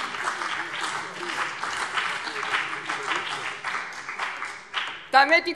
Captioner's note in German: Beifall